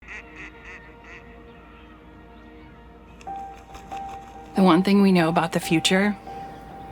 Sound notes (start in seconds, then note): 0.0 ducks quacking; 2.9 gentle piano music